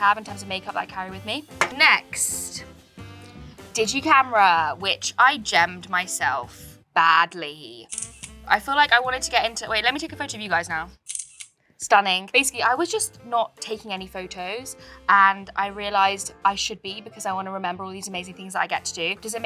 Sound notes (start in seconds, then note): 7.9 camera shutter clicks; 11.0 camera shutter clicks